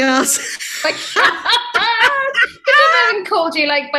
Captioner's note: hysterical Laughter